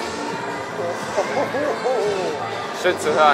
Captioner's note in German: lacht